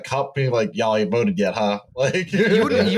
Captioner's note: laughing